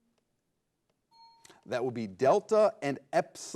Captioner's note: bell chimes